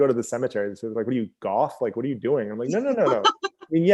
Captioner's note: laughs